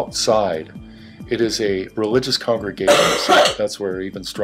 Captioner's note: cough